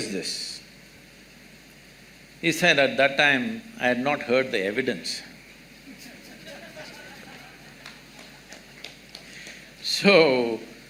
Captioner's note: laughter